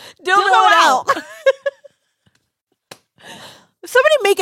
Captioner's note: laughs